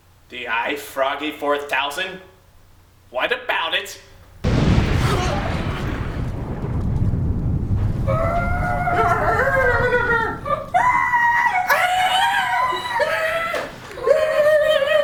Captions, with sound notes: The ifroggy 4000? What about it? *EXPLOSION*